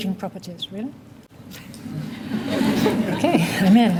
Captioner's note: laughter